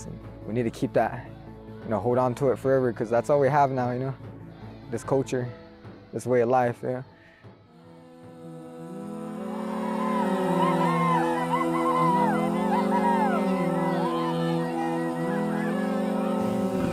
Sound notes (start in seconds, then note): 8.0 uplifting music; 9.7 children cheering